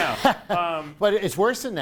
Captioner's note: laughing